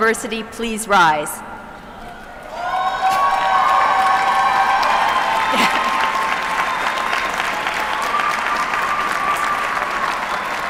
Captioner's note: applause